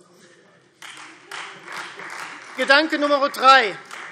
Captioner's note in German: Beifall Freie Demokraten